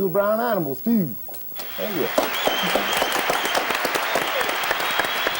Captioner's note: audience applause